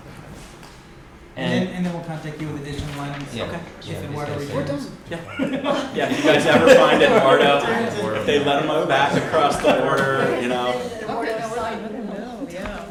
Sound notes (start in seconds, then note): 5.8 laughter